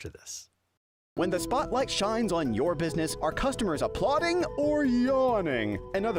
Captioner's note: voiceover